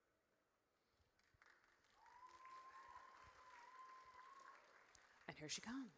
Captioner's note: audience cheers